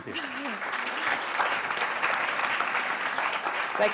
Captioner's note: applause